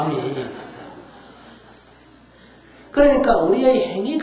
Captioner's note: audience Laughter